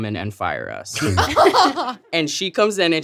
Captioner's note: laughing